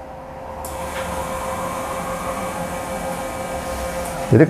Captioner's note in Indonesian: suara mesin printer